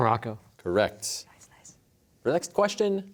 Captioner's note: quietly